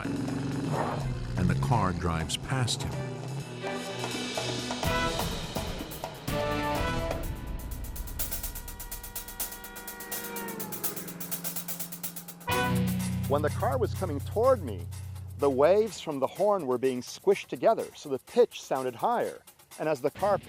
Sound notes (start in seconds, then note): 7.8 blast of horn increases in intensity and pitch; 12.3 blast of horn decreases in intensity and pitch